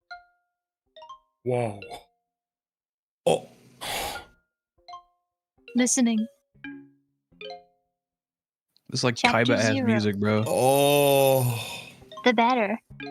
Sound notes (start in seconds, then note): 0.9 gentle music; 3.7 exhales